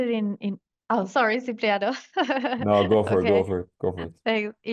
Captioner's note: laughs